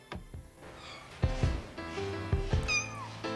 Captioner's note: kitten meowing